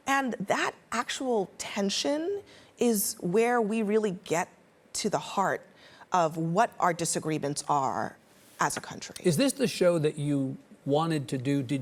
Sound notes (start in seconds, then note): none